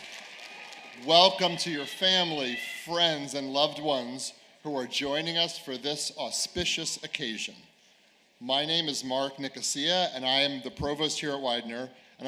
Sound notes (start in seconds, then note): 1.9 cheers and applause